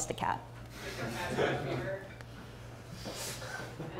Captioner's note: laughs